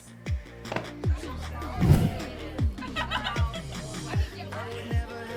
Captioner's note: upbeat music; people laughing